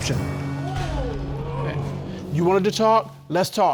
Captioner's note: audience exclaiming